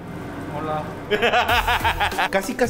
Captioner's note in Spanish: Risas